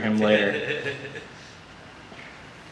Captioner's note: audience laughter